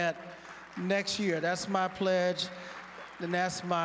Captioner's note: applause